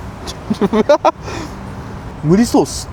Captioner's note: laughs